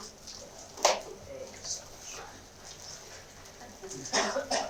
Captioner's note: background conversations